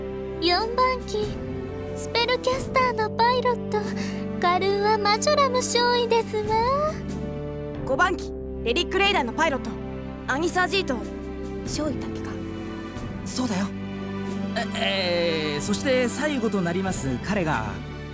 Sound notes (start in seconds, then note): 11.6 whisper